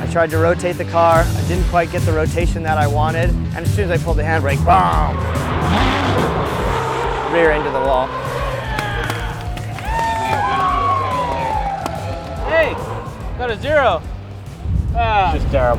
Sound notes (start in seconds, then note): 4.5 engine revving, tires screeching; 9.1 crowd cheering; 12.4 groans